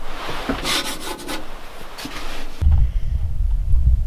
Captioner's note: scraping